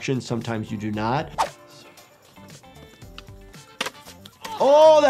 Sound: graphic whooshes; body thuds; skater moans

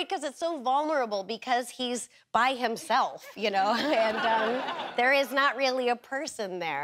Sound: audience laughter

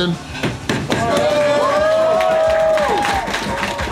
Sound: crowd cheering

